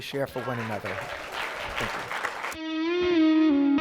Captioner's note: clapping